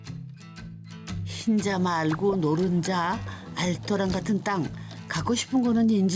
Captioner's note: sizzling